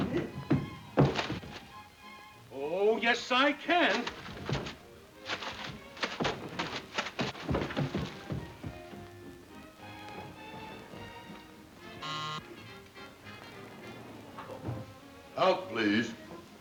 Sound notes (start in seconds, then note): 0.0 footsteps plodding; 9.9 gentle music; 12.0 bell buzzing